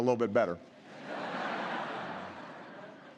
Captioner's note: laughter